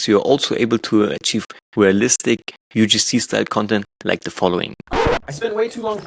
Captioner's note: record scratch